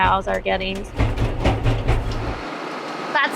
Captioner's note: machine noise